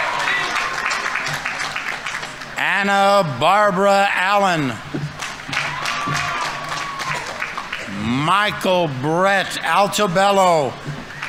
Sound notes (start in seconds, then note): 1.1 audience applauding; 5.2 audience applauding; 5.2 audience members cheering